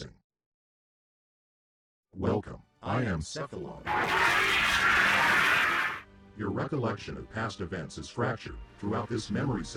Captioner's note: static